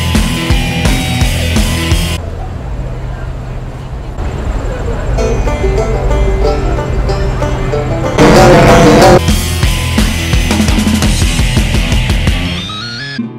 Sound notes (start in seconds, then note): 2.1 city noises; 7.0 city noises